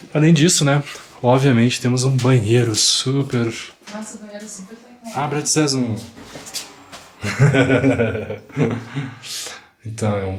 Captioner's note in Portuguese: risadas